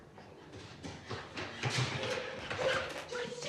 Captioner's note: feet squeaking